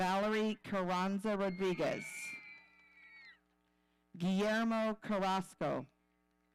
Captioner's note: audience cheering